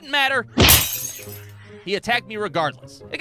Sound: thwack! Glass shatters!

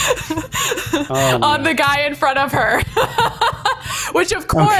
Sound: laughing

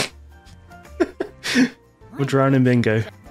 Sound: laughter

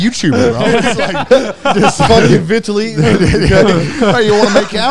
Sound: all laughing; group chatter

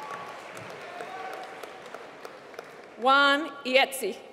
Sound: applause

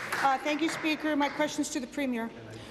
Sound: applause

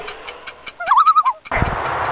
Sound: loon call

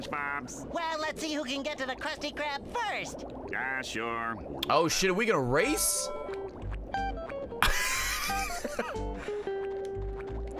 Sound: laughs

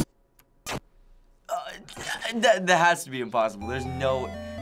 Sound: stammering

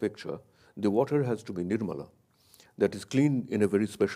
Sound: speaks in a foreign language

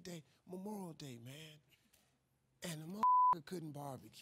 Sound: beep

